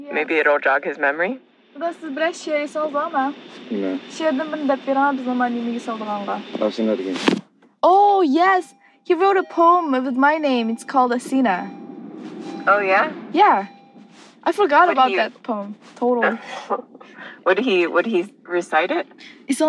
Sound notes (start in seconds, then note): 6.5 in Uyghur; 16.2 laughs